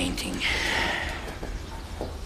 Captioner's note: sighs